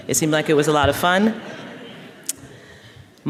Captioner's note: laughter